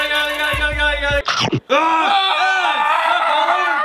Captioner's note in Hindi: चोम्प; चिल्लाना